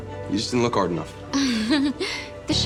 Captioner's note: chuckles